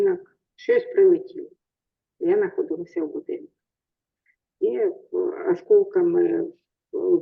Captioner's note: speaking in foreign language